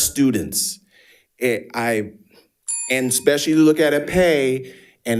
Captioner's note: bell dinging